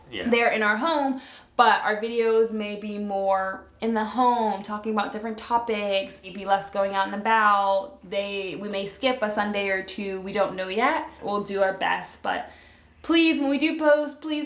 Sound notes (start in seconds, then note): none